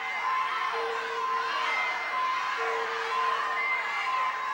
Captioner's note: audience cheering